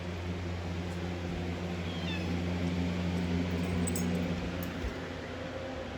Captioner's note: Caprice meows